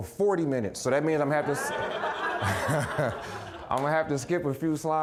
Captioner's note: audience laughing